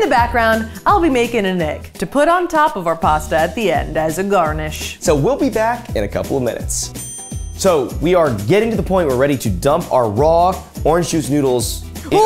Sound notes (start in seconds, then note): 6.9 bell dings